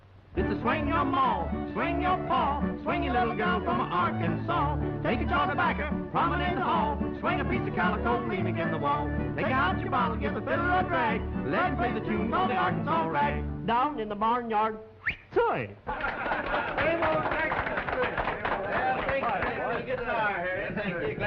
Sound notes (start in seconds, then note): 15.0 whistle effect; 15.9 laughter and cheers